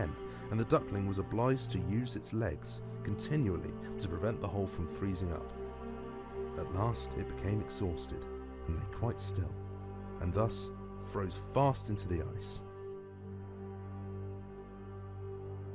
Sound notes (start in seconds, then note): none